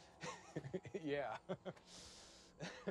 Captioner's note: laughs